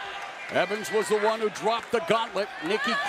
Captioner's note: crowd chatter